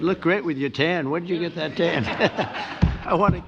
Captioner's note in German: lacht